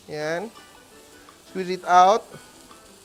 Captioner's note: sizzles